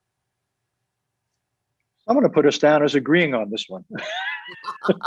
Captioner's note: laughs